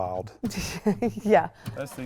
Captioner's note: laughs